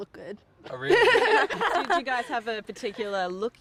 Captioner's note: laughs